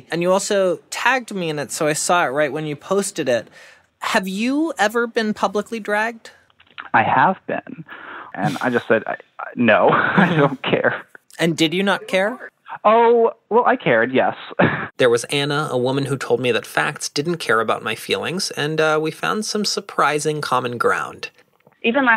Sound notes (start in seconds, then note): 9.6 laughing